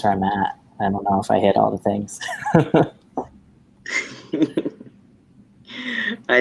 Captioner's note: laughs